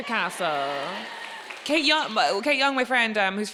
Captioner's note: audience cheering and applauding